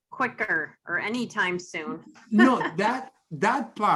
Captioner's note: laughs